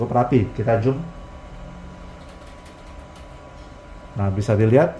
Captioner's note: keyboard noise